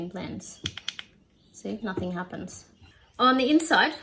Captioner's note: double-click noise